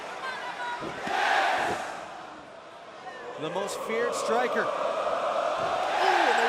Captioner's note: crowd cheering